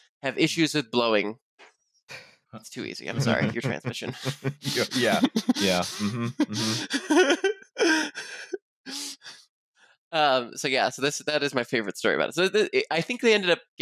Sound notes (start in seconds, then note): 3.2 laughter; 8.2 laughs